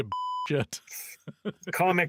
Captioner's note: beep